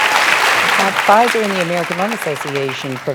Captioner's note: applause